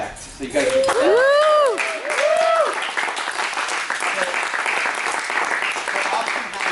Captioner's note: applause